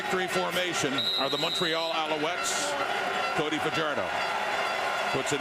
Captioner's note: crowd Noise